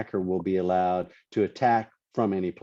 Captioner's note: none